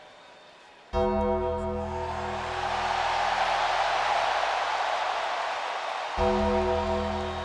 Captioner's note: gong ringing; crowd cheering